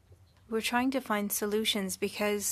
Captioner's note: speaking French